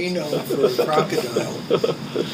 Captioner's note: laughing